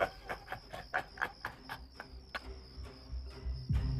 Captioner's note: JUJU laughs evilly; tense suspenseful music